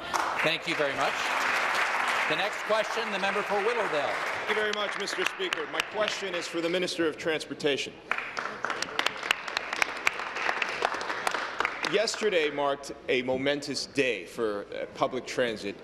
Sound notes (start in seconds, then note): 6.2 applause; 11.9 applause